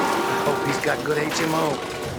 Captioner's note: tires squealing, cars crashing